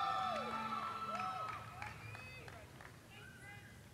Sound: cheers and applause

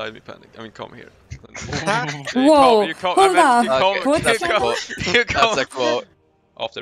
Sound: excited noises in the call

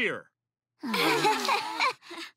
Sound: sighing

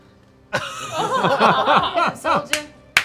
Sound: laughing

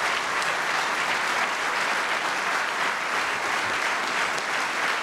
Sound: applause

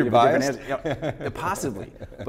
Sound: laughing

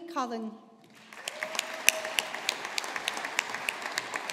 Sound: audience applauding

